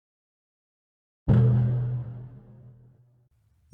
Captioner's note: thud!